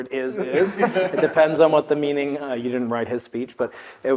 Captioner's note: laugh